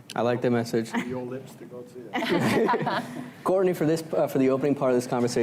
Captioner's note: laughter